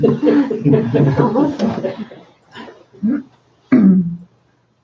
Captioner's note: laughs